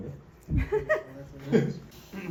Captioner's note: laughing